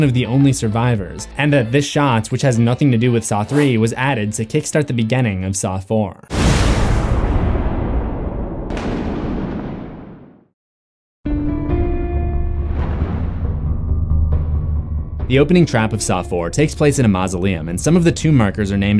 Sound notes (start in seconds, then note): 6.3 thunder